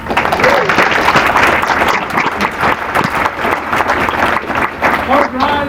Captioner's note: applause